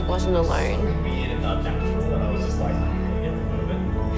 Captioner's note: distant chatter